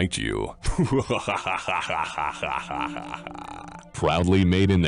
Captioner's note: laughter